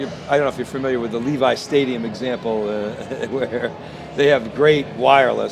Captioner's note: laughs